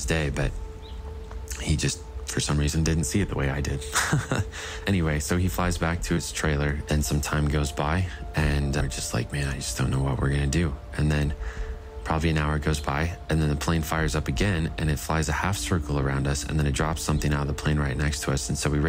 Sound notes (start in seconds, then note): 3.7 chuckling